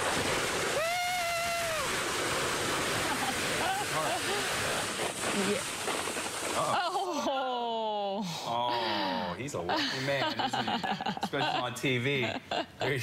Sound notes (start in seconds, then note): 7.8 laughter